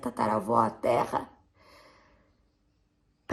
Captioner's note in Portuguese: som de respiração